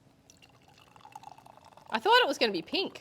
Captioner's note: cider splashing